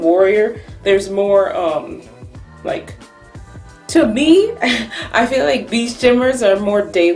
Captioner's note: chuckles